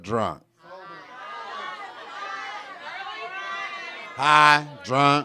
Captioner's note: audience shouting